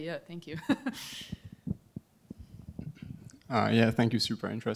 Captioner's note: laughs